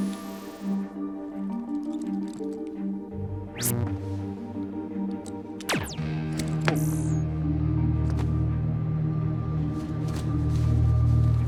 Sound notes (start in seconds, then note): 0.3 whirs; 3.5 buzzes